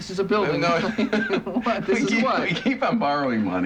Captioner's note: laughing